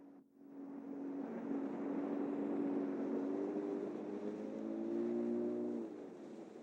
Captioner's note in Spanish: Ruido de lancha